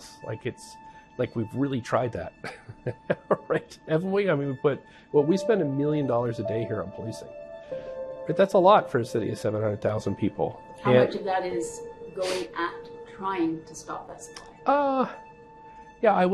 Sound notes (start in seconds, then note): 2.4 chuckling